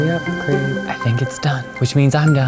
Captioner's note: sizzling; whispers